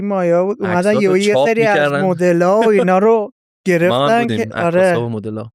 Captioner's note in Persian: خنده